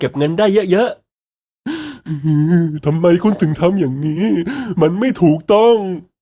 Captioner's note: choking back tears